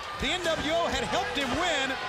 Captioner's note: bell ringing